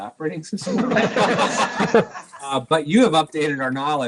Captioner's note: laughs